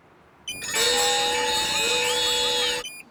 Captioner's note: alarms